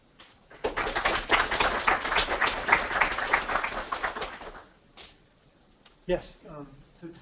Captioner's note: applause